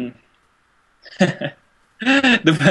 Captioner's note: laughs